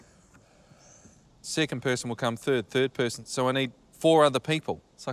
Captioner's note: none